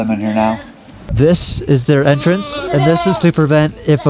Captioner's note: goats bleating